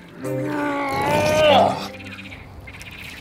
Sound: groan

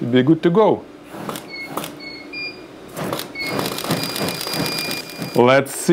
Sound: camera beeping and clicking repeatedly, flames whooshing

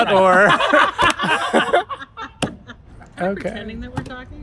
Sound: laughter

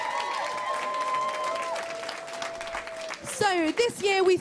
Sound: applause

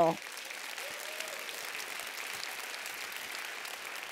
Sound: applause

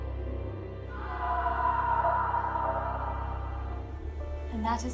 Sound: an echoing scream

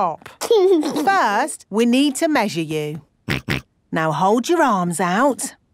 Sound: snorts

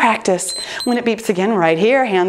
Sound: timer beeps

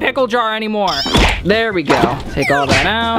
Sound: squeaking

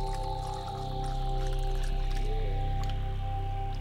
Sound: drink pouring

